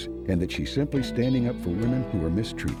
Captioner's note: none